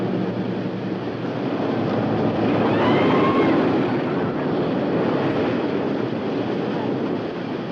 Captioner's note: roller coaster rattling; people screaming